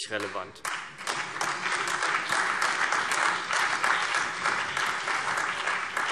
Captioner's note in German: Beifall CDU, BÜNDNIS 90/DIE GRÜNEN und AfD